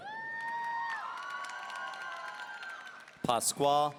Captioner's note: audience cheering